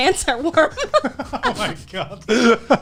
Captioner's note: laughing